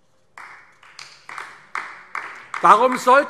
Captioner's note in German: Beifall AfD